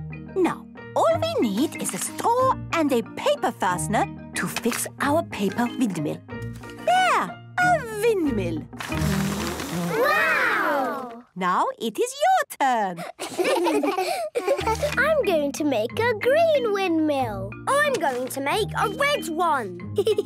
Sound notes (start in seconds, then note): 8.8 blows